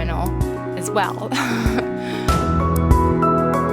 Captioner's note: laughs to herself